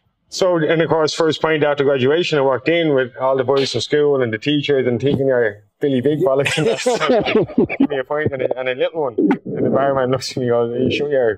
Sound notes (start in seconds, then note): 6.3 laughing